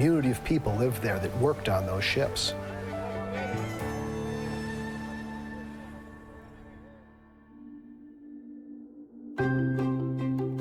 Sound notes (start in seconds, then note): 1.9 water lapping, birds cawing; 9.4 upbeat music